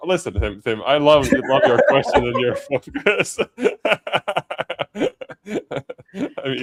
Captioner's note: laughter